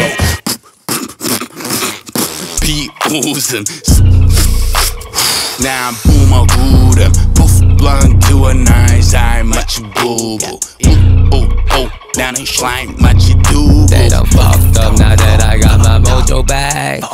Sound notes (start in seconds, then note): 0.0 laughs; 3.6 sip